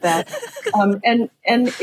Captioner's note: laughs